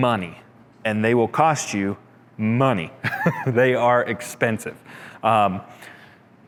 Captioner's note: chuckles